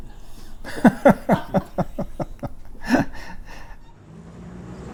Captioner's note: laughs